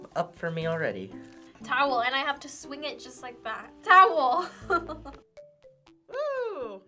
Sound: chuckles

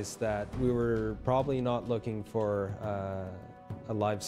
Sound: voiceover

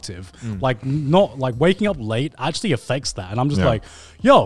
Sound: none

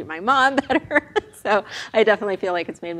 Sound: laughs

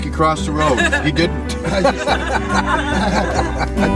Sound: chuckles

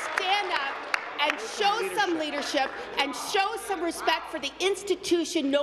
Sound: applause

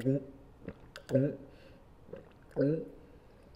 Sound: glug glug glug

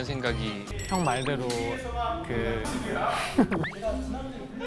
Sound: laughs

